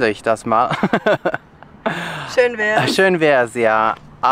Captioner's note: laughter